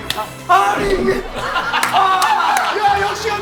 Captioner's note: wailing away